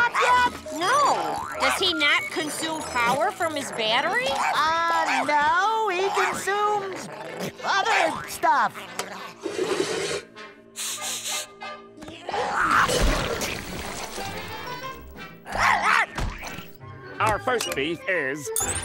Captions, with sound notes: No. Does he not consume power from his battery? Ah, no, he consumes... other stuff! [sniffing] [barking] Our first beef is...